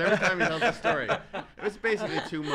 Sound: laughs

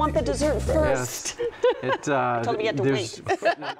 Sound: laughs

